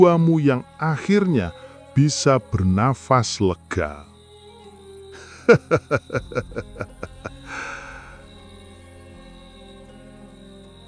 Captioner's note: laughs